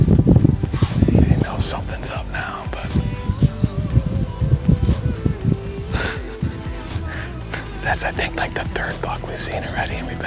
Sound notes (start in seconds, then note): 5.5 chuckling